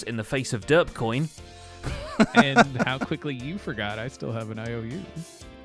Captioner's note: laughter